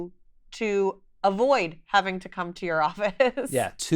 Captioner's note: chuckles